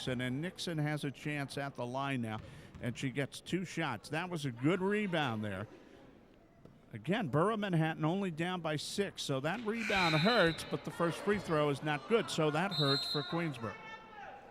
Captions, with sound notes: and Nixon has a chance at the line now, and she gets two shots. That was a good rebound there. Again, Borough of Manhattan only down by six, so that rebound hurts, (buzzer sounding) but the first free throw is not good, (referee whistling) so that hurts for Queensborough,